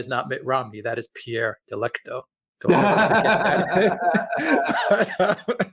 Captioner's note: both laughing